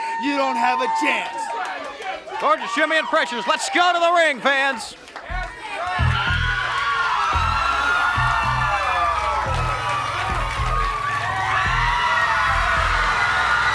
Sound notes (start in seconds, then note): 5.5 audience cheering; 6.0 slow tempo rock music